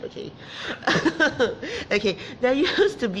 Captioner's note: laughs